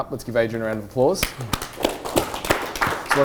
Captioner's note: applause